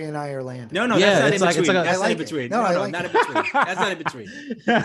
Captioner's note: father laughs